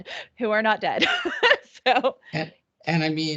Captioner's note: chuckling